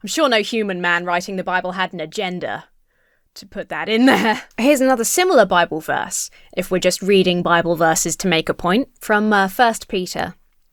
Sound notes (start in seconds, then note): 4.0 chuckles